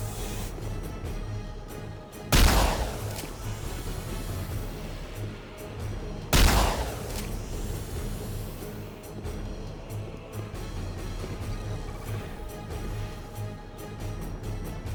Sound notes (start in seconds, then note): 0.9 dramatic music; 6.2 gun firing; 6.9 dramatic music